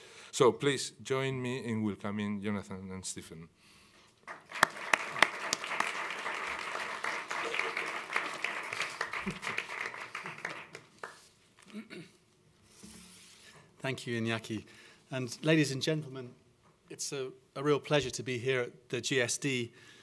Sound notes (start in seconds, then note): 4.2 applause